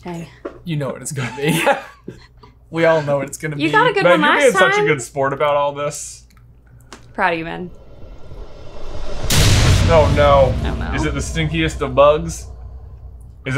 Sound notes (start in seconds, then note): 1.2 laughing; 7.1 epic boom